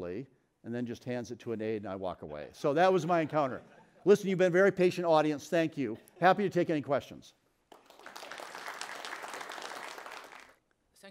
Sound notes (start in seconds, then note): 2.9 audience laughs; 7.7 audience applauds